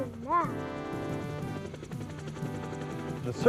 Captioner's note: helicopter flying